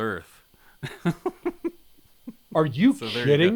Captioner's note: chuckling